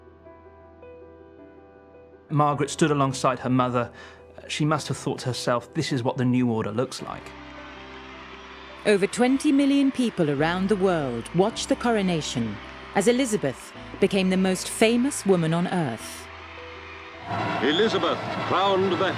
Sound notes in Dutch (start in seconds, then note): 7.6 publiek juicht